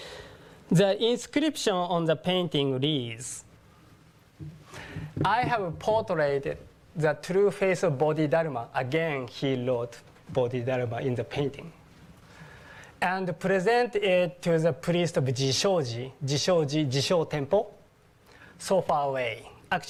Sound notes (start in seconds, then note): none